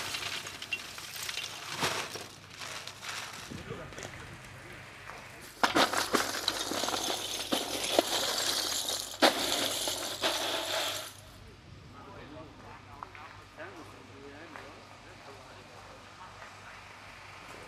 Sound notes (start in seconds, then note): 3.6 conversations in the background